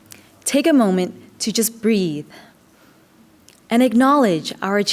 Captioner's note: takes a deep breath